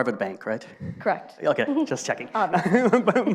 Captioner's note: laughs